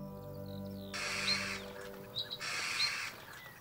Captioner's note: crow squawking